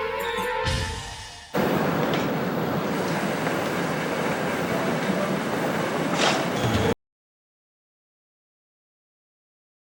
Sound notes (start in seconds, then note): 0.2 chime; 1.6 footsteps